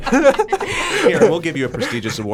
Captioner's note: both laugh